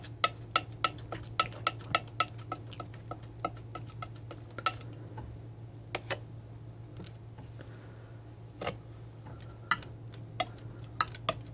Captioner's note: tapping